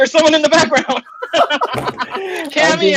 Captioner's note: laughing